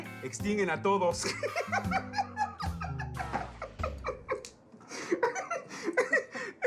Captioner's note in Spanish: Ríe